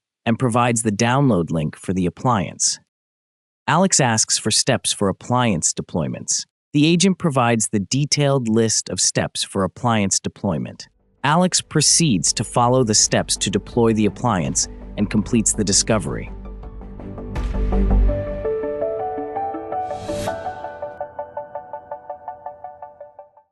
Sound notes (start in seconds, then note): 16.8 bright upbeat music; 19.8 transition whooshes; 21.1 bright upbeat music fades